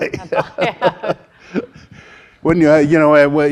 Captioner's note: laughing